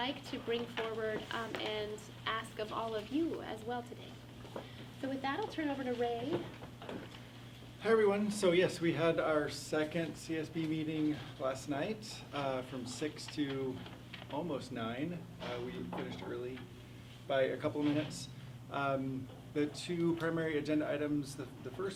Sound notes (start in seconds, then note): 4.0 faintly speaking